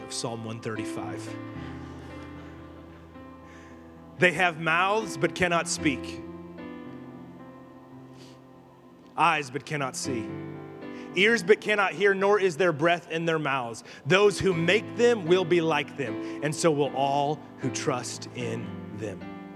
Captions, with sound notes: of Psalm 135. (congregation laughing) They have mouths but cannot speak, eyes but cannot see, ears but cannot hear, nor is there breath in their mouths. Those who make them will be like them, and so will all who trust in them.